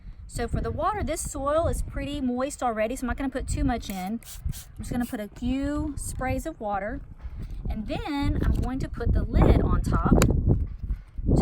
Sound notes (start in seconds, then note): 3.8 spraying